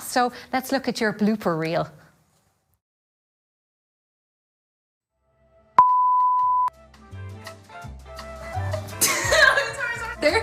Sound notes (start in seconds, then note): 5.8 computer beep; 9.0 girl laughing